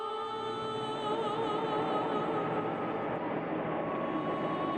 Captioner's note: engine rumbling